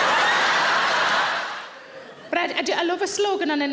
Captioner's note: audience laughs